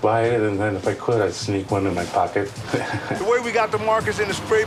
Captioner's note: chuckles